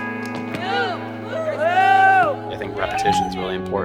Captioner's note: players exclaiming